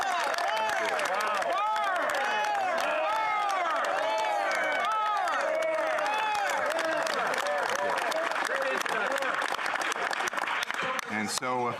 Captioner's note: applause